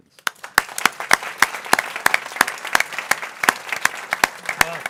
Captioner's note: people clapping